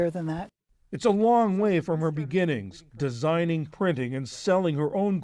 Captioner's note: voice-over